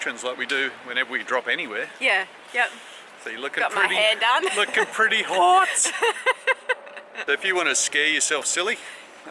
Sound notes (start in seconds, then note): 5.9 laughing